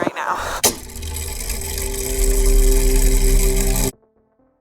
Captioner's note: mechanism whirring